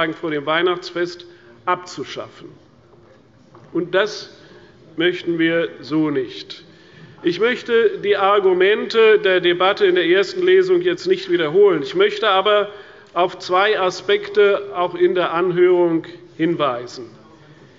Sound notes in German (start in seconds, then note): none